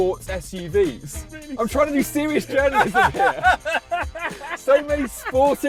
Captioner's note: laughs